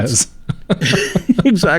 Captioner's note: laughing